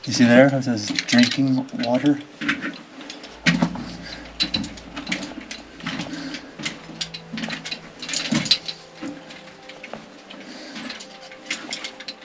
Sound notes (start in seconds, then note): none